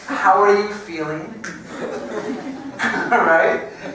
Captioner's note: laugh